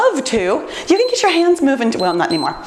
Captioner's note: timer beeps